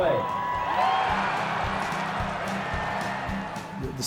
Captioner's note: fans cheering, music